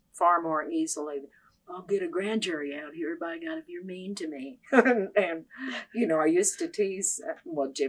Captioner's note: laughs